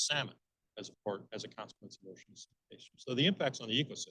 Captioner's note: speaking faintly